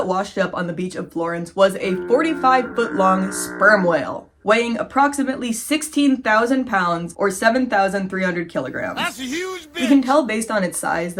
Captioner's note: fog horn